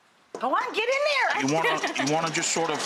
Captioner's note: laughing